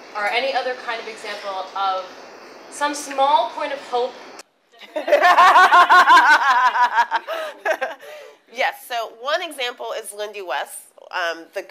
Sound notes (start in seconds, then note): 4.8 laughter